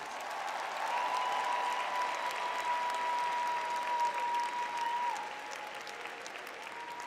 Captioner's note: crowd cheering